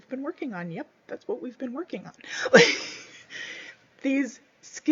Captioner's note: laughs